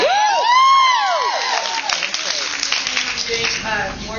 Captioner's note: cheers